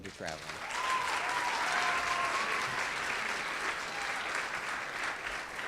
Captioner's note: audience cheers and claps